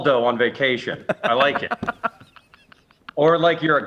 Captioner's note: laughs